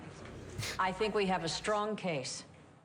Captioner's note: chuckles softly